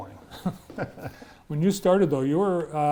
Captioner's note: both laughing